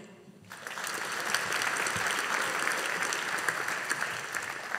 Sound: audience applauding

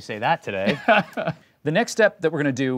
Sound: laughing

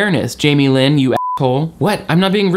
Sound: beep

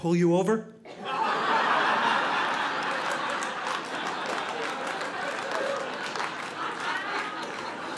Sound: audience laughing

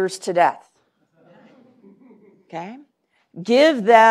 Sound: laughter

